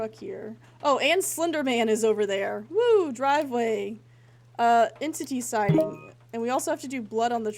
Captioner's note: notification Boop